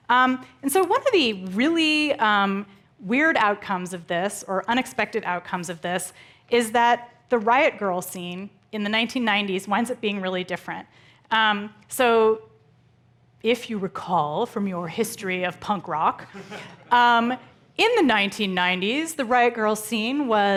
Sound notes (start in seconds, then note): 16.3 audience chuckling